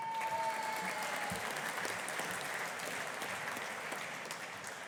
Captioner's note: audience applauding